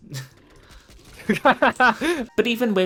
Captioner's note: starts laughing